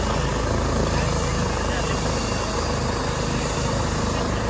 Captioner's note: helicopter buzzing increases